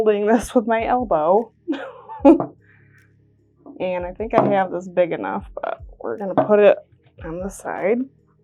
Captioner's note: laughing